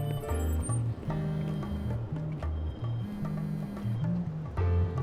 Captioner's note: cellphone buzzing